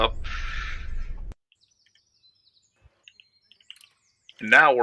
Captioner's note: jungle sounds